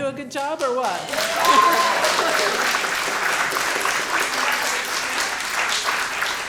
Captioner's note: audience cheering and clapping